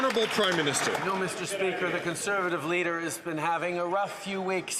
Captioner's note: some Applause